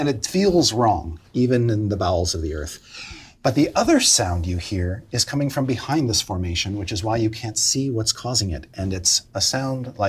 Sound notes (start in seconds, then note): none